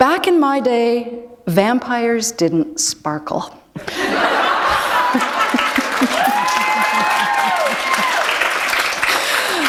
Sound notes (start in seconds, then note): 3.8 laughter; 5.0 applause